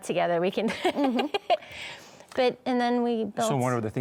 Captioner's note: laughs